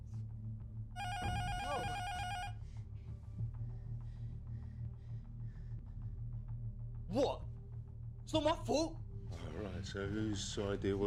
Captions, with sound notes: [INTERCOM BUZZER RINGS] WHAT? IT'S NOT MY FAULT!